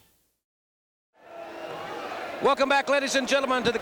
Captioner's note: crowd cheering